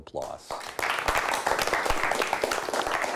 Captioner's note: clapping